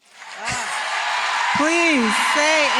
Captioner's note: applause